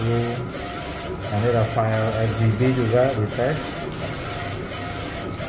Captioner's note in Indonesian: suara mesin printer